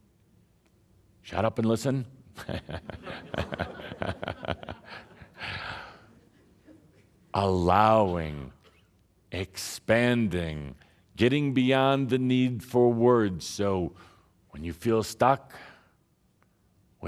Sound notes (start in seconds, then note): 2.4 laughter from audience and Tobias